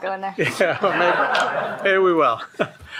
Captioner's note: shared laughing